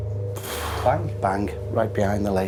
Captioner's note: loud bnang